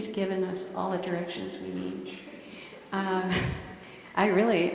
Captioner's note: laughter